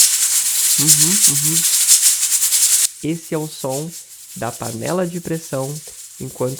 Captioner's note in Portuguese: som de panela de pressão